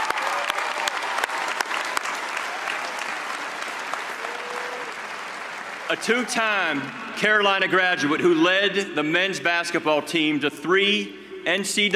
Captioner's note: cheers and applause